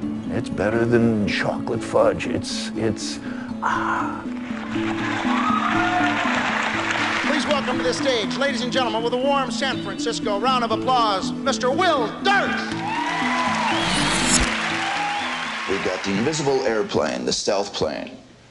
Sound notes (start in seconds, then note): 4.5 cheers and applause; 12.6 cheers and applause